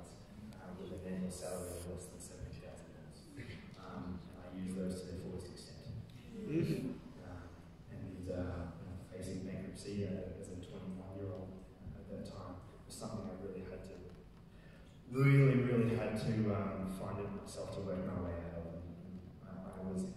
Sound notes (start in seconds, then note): 6.8 audience groaning